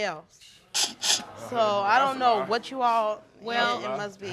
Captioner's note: laughing